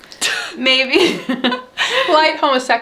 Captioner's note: both laughing